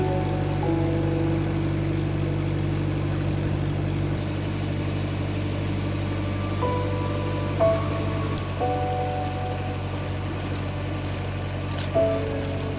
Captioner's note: water splashing